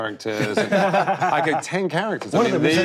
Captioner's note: group laughing